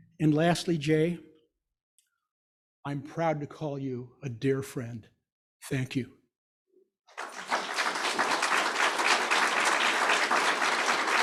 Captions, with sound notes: And lastly, Jay, I'm proud to call you a dear friend. Thank you. (audience applauding)